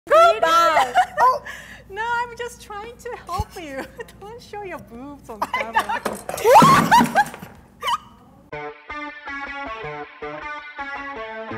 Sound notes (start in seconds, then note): 6.4 both laughing; 8.6 upbeat rock music